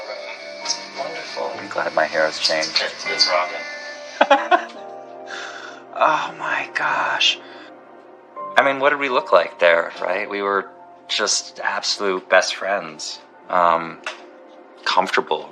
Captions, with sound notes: Made much more space out of this tiny, little room. It looks wonderful. I'm glad my hair has changed. - It's rocking. - [laughs] Oh, my gosh. I mean, what did we look like there, right? We were just absolute best friends, um, comfortable.